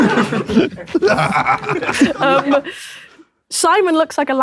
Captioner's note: KSI laughing; people in room laughing